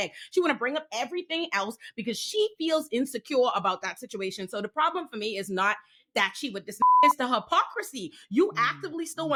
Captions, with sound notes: She wanna bring up everything else because she feels insecure about that situation. So the problem for me is not that she, with this (beep) is the hypocrisy. You actively still